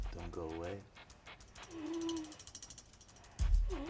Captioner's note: whimpering